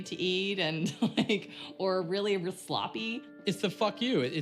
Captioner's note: she chuckles